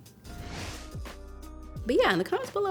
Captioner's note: air whooshes